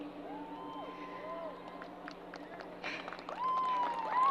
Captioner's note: crowd applause